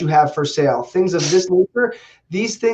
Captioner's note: voice muffling